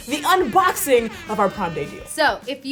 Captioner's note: air horn blowing